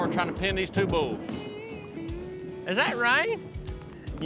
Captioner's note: thunderclap